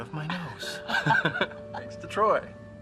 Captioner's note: laughing